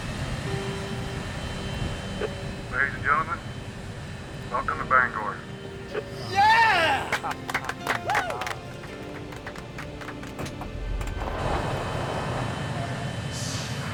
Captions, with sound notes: [ Engle On Cabin P.A. ] LADIES AND GENTLEMEN, WELCOME TO BANGOR. YEAH ! WHOO ! [ Applause ]